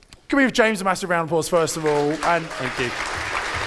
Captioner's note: audience applauds